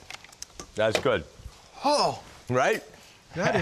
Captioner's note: exclaims